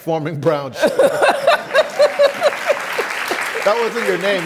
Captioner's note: laughs